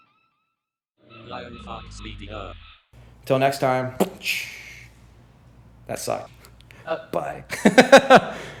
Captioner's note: laughter